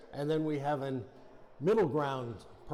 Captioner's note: none